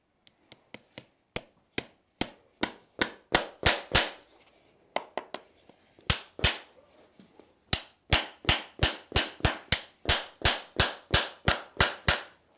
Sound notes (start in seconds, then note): 0.3 hammer blows to drive in the nail